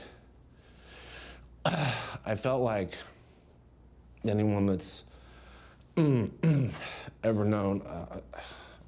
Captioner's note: clears throat